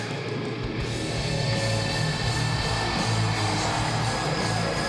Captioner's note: intense rock music; crowd cheering